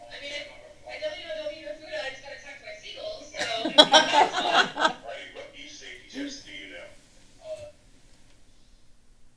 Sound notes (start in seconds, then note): 3.4 laughter